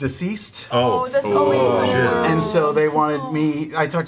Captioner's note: sympathetic noises